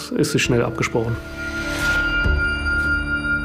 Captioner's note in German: Schrille Klänge